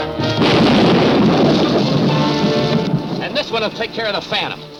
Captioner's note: explosion booms